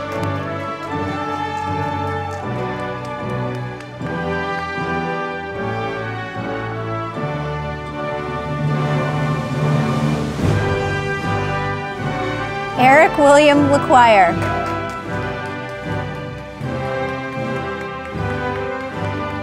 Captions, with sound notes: (audience applauding) Eric William LaQuire, (audience applauding)